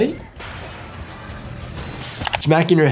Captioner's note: metal crashing